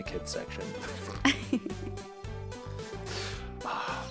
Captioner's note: laugh